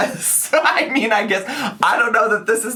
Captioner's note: laughing